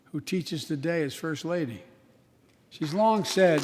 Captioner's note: applause